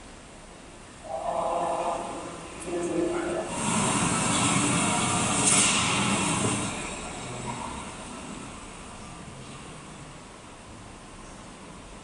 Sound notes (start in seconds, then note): 0.2 train noises; 4.2 train station noises